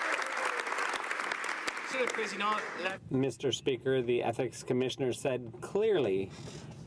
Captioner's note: some Applause